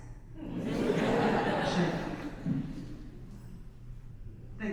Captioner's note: audience laughs